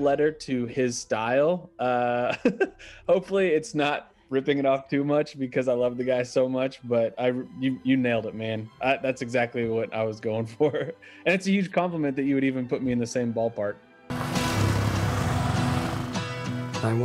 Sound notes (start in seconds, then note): 2.1 laughing; 14.1 engine roaring; 15.7 guitar strumming